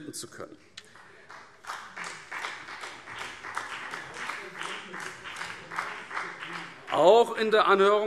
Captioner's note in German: Beifall BÜNDNIS 90/DIE GRÜNEN